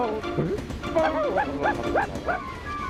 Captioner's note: barking